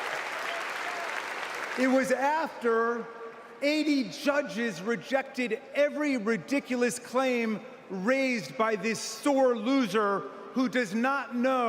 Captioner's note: applause